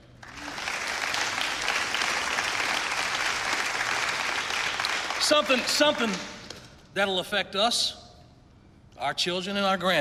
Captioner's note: applause